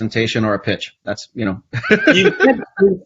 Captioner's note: laughs